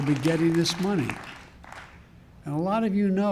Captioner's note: applause